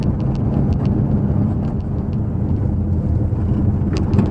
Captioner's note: engine noise